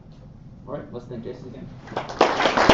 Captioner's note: applause